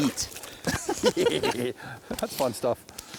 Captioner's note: both men laughing